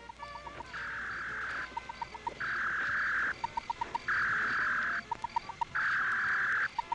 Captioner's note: beeping; whirring